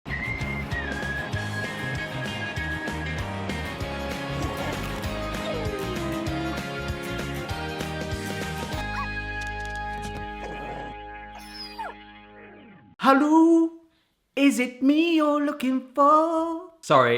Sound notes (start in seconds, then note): 11.3 dog whimpering